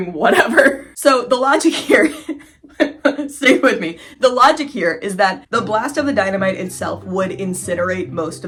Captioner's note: laughing; silly music